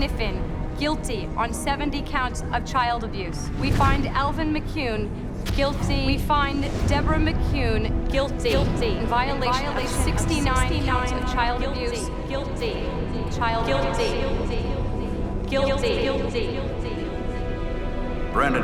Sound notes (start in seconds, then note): 8.8 echoing